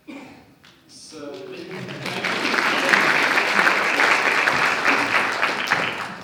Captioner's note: audience applauses